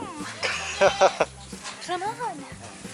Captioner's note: laughter